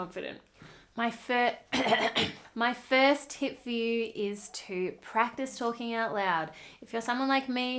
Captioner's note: cough